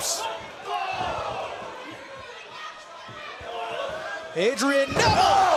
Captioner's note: crowd chatter